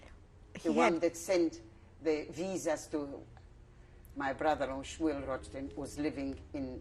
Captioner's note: non-english